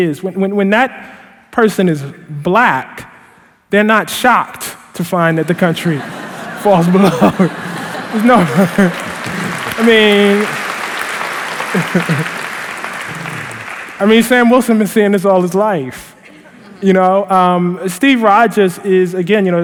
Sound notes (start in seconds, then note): 6.8 laughing; 8.4 laughter & Applause